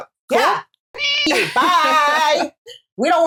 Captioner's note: meow; caw